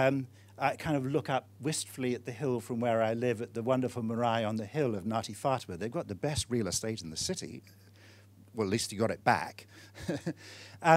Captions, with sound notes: And I kind of look up wistfully at the hill from where I live at the wonderful (speaking foreign language) on the hill of (speaking foreign language). They've got the best real estate in the city. Well at least you got it back.